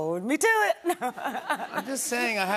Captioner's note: laughter